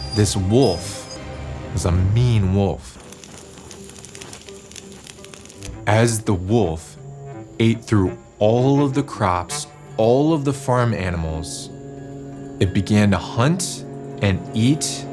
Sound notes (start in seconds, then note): 3.3 fire crackling